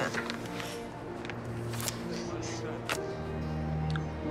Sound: giggling

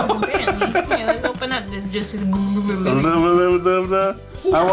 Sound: blubbers

